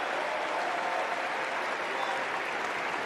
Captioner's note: applause